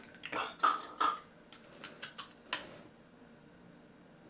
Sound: inhaler puffing

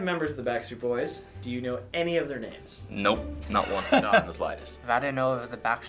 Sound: bursts out laughing

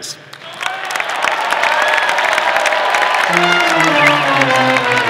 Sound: audience applauding; bright instrumental music

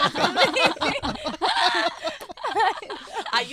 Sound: laughing

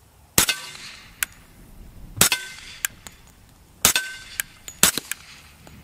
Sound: gun shots

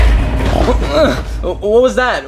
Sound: Luigi groaning

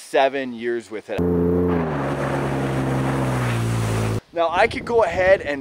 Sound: engine whirring

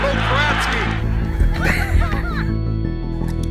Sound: laughter

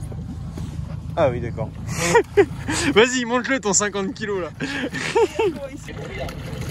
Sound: lauging

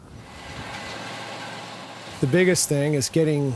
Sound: combine noise

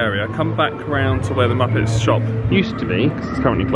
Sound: gibbers in shock

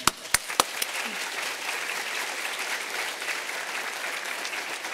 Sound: applause

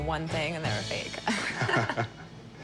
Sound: laughter

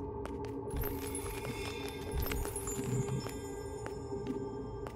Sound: sparkle

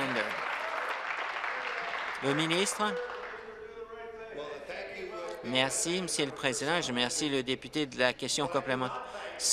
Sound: applause

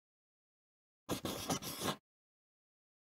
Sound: sound of pencil

